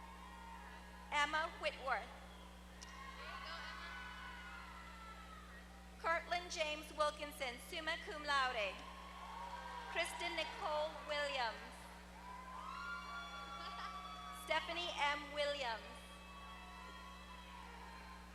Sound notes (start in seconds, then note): 8.9 applause